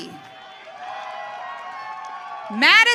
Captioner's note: audience cheering